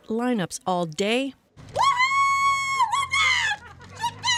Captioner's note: cheers and Applause